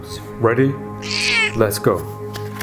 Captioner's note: cat meows